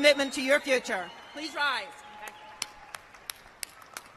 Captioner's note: cheers and applause